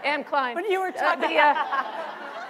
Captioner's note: laughter